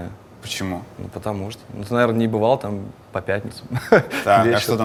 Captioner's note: chuckles